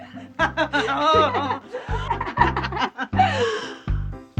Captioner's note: laughing